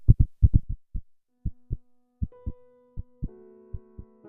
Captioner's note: heart beats de-escalated; reflective music